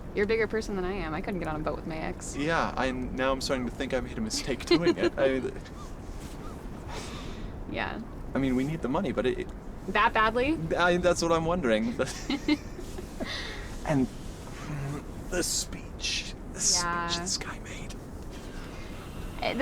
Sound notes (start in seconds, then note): 4.3 Suzy laughs; 7.1 Billy sighs softly; 11.9 Billy ans Suzy laugh; 14.5 groans